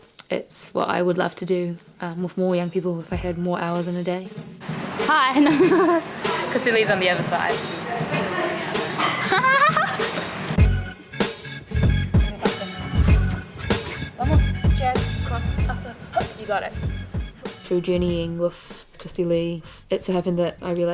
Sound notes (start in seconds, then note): 5.3 laughing; 8.1 Christy Lee laughing; 11.3 upbeat music